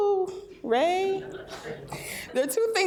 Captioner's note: laughter